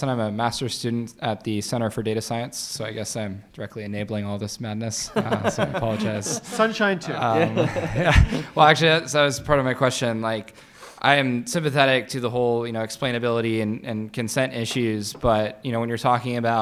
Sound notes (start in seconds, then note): 5.1 audience laughing